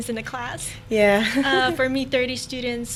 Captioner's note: laughing